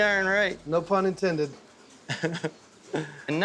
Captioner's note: chuckling